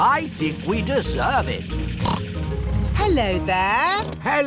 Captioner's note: snorts